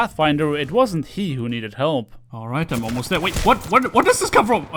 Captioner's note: sound of gunshots